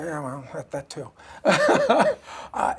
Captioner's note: laughter